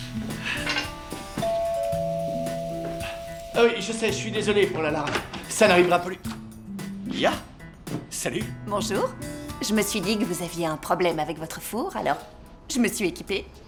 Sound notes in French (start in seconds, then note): 1.2 on sonne à la porte